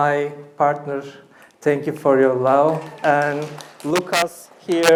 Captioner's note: applause